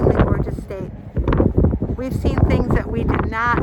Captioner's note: wind flapping